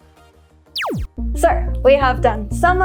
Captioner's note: scene whooshing; laser zapping